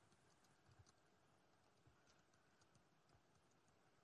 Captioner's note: typing